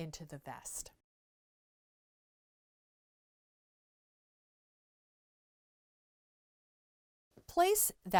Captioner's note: no Sound Present